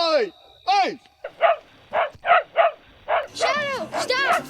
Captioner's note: barking continues; dog barking